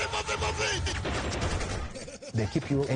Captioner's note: gun shots